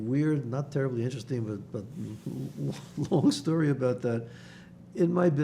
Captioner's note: laughing